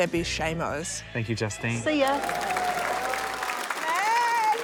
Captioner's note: applause